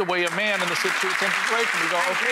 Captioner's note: cheering drowns out talking